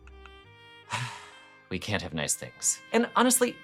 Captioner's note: sigh